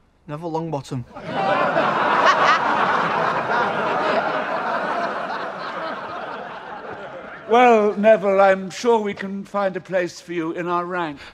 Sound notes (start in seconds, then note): 1.1 crowd laughing